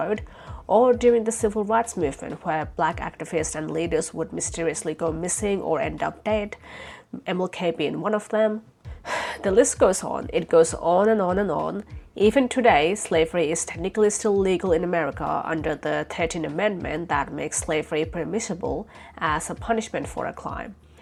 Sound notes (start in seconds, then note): 8.9 sighs